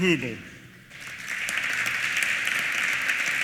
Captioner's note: applause